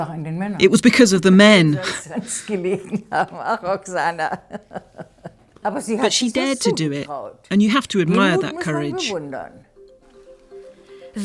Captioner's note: laughs